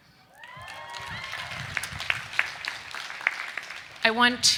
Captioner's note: students cheering; students clapping